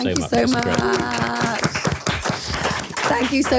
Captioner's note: everyone applauding